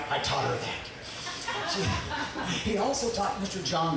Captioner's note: audience laughing